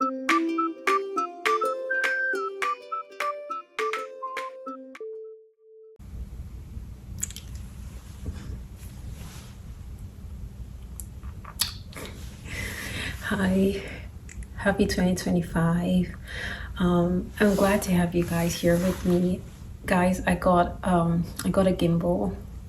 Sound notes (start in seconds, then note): 11.2 kisses🤍